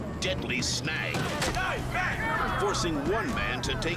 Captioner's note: basket lurching